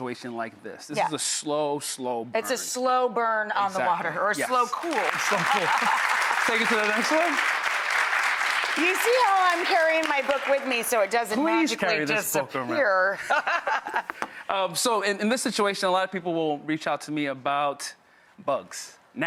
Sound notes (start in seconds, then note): 4.4 audience applauds; 13.5 laughs